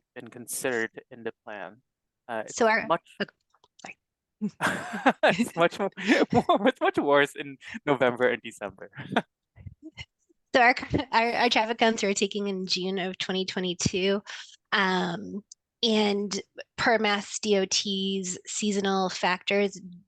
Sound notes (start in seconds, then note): 4.5 laughs